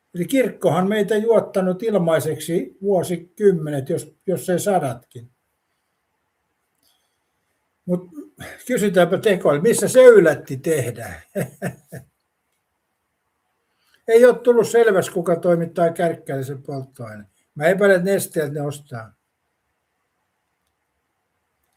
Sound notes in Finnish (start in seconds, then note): 10.4 naurua